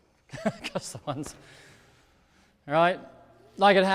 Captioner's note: laughs